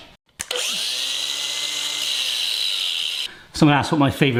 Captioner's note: angle grinder slicing